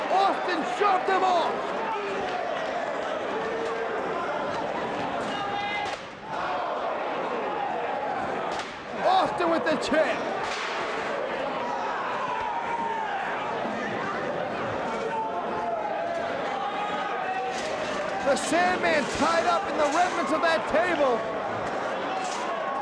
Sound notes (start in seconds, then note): 12.6 audience cheers